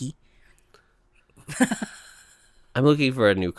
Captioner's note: laughs